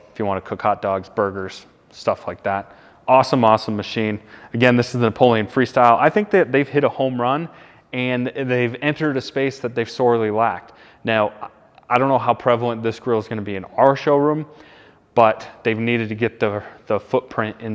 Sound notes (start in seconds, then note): none